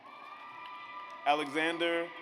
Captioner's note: audience applauds